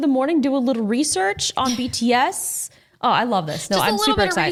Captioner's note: chuckles